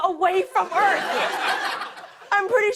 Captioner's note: laughter